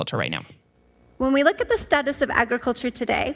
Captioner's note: over recording